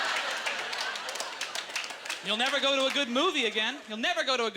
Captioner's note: audience laughter